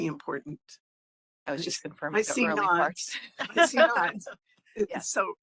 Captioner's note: laughing